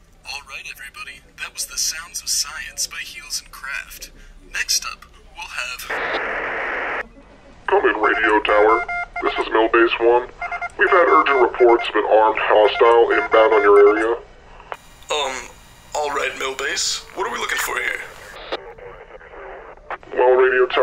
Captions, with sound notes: All right everybody, That was the sounds of science by heals and craft next up [static] come in radio tower, this is mil-base one; we've had urgent reports of an armed hostile inbound on your area um all right Mill base, what are we looking for here